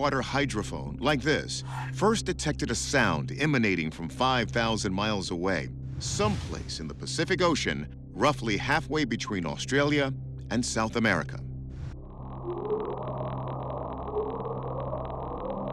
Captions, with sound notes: like this first detected a sound emanating from 5,000 miles away, someplace in the Pacific Ocean, roughly halfway between Australia and South America. [faint bwoop]